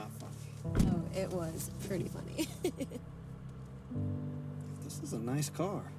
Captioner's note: laughing